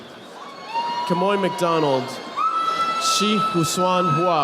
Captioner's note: audience applauding